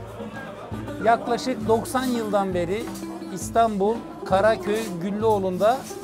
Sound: speaks in foreign language

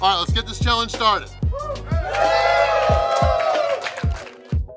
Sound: cheering & Clapping

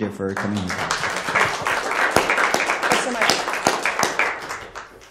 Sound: applause

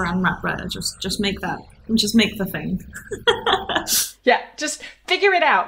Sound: laughs

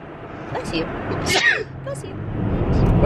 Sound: sneezes

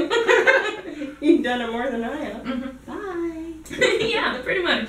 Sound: laughs; laughs

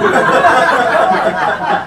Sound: laughs

